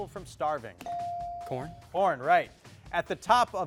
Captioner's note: bell dings